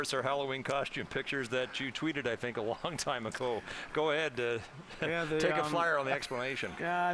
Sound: laughter

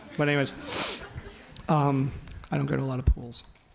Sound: audience laughs

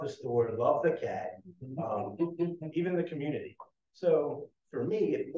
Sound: chuckling

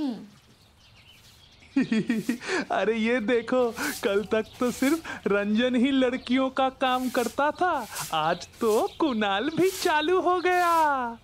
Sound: laughing

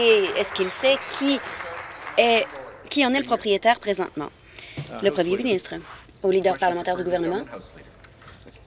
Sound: applause

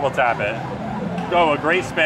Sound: game being played

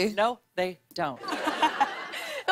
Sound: laughter

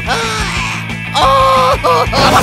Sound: screaming; more screaming

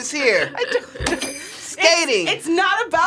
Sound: bells jingling

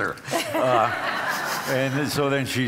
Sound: audience laughs

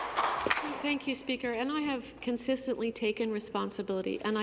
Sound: some Applause

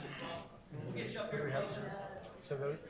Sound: group chatter

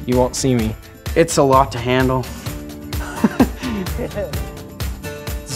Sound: chuckles

